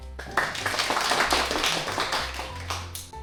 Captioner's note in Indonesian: tepuk tangan